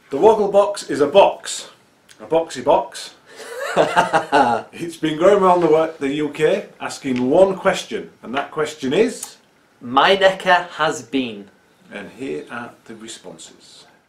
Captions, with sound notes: The wogglebox is a box. A boxy box [laughter] It's been going around the UK asking one question. And that question is... My necker has been... and here are the responses..